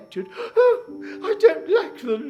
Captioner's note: gasps